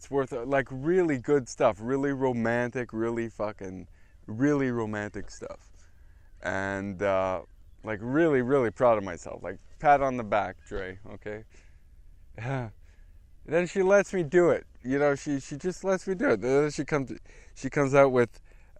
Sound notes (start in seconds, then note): 12.1 laugh